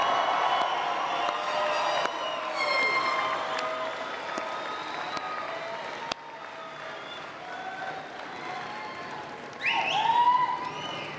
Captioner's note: cheers and Applause